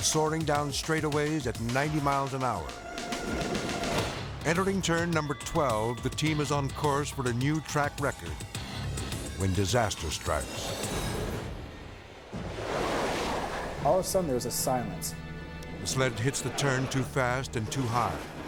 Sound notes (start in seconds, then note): 9.4 bobsled whirring